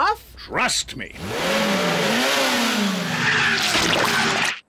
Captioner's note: revs engine